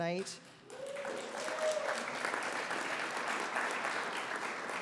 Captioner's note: audience applauds